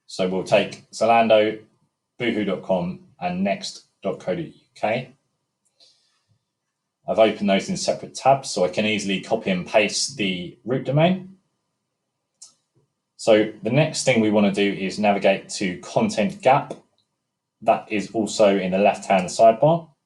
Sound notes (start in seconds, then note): 13.1 mouse clicking